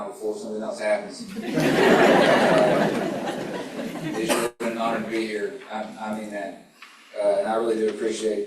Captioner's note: laughter